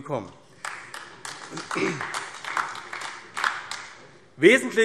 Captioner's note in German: Beifall AfD